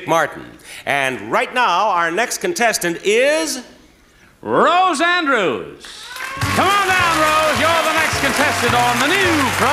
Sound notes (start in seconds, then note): 5.9 audience applauding